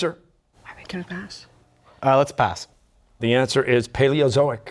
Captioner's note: whispering